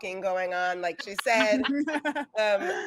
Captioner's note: laughing